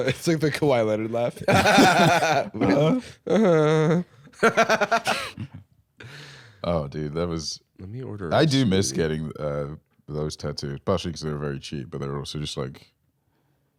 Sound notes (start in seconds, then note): 1.5 laughs weakly; 4.3 laughs